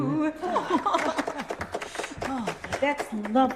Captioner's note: applause